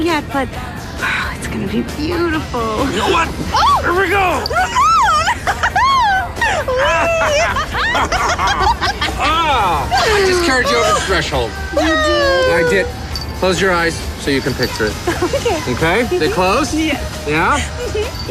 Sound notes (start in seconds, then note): 4.4 shrieks; 6.7 laughing